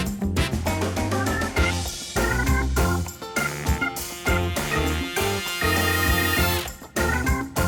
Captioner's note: laughing